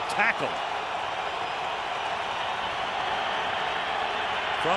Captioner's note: cheering